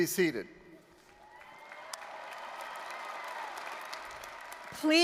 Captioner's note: applause, cheering